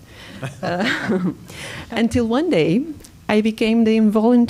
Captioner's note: laughter